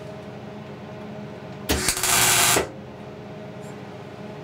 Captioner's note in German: Lautes Surren